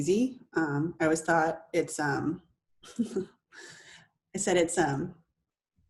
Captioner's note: laughs